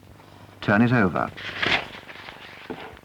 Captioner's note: paper rustles